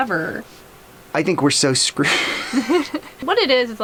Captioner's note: laughs